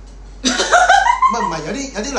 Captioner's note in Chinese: 狂笑